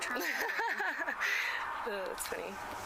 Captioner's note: laughs